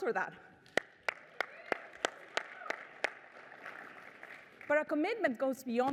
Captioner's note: applause